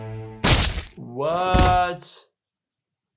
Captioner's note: blood splashes